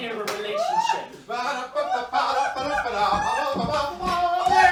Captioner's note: humming and giggling